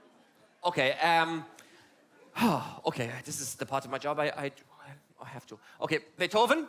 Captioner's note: sigh